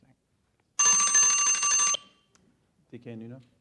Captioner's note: alarm rings